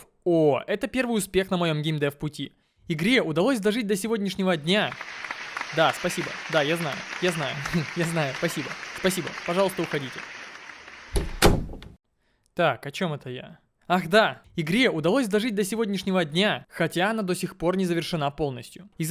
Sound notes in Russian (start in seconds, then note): 5.0 Аплодисменты; 10.4 Аплодисменты и щелчок